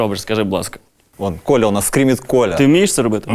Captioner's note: spoken in Russian